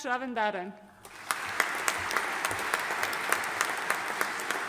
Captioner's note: audience applauding